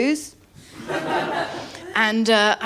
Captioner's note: laughter